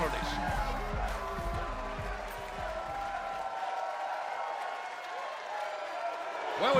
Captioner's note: crowd cheering